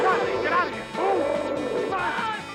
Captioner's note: dinosaur roars